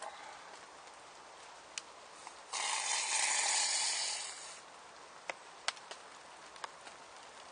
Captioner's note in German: Zischen